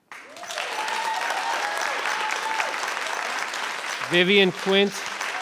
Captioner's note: audience applauds